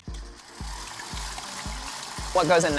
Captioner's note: mixer whirring